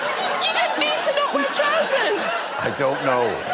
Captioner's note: laughter